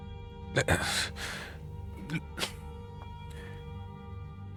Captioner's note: stammering